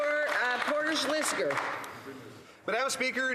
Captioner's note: some Applause